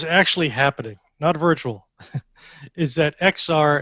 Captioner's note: chuckles